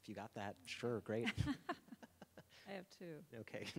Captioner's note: both laughing